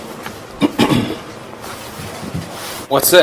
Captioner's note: Steve clears throat